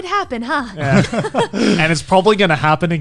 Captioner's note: laughs